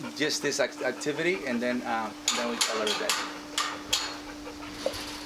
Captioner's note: gate opens